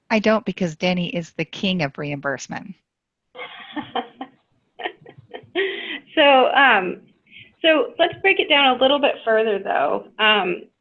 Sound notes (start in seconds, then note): 3.3 laughs